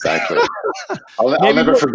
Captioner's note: laughing